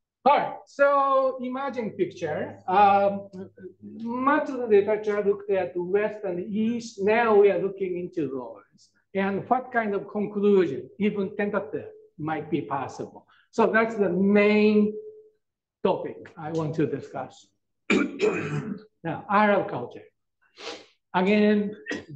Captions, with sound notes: Alright, so imagine picture much of the literature looked at the West and East, now we are looking into laws and what kind of conclusion even temperature might be possible. So that's the main topic I want to discuss. (coughs) Now, Arab culture again,